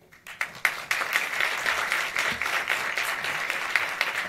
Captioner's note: audience applauds